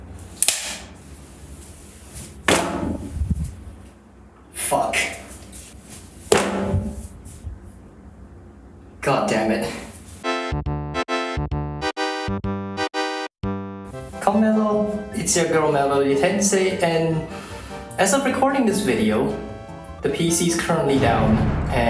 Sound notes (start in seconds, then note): 0.3 clapboard claps; 2.4 Mousemat slaps on the floor; 6.3 mousemat slaps on the floor again